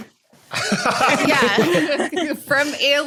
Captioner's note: others laughing